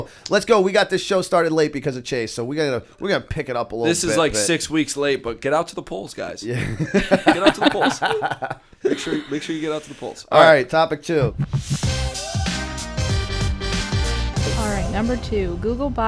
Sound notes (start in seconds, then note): 6.5 laughter